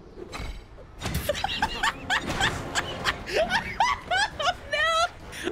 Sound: laughing hysterically

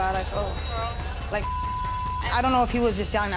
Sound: beep

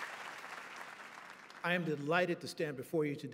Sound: applause

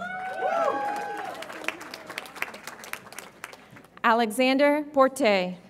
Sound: audience applauds and cheers

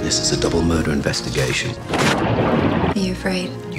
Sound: water splashing

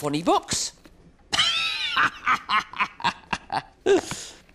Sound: laughs loudly

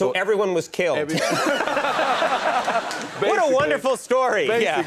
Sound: laughter

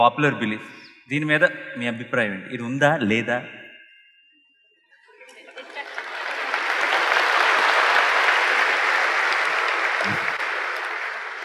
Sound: laughter/Applause

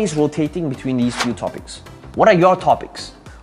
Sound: air whooshing

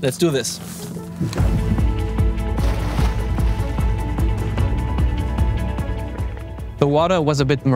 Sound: upbeat music; water splashing

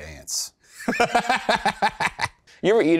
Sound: laughs

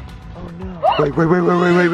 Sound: shrieking

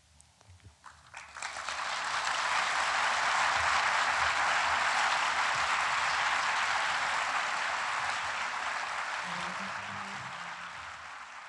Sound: applause

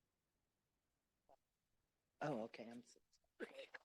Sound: giggle

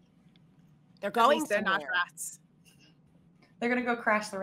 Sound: group chattering

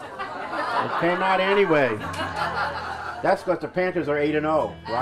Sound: laughter

